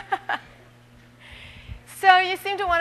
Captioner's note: laughter